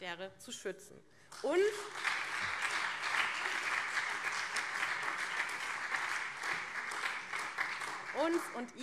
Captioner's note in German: Beifall SPD und CDU